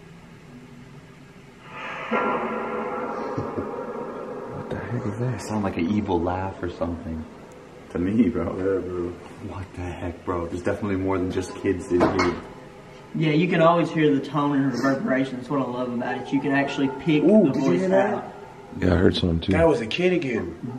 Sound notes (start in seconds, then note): 3.1 laughs